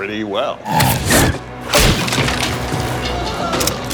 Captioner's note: seat crackling; gun cocks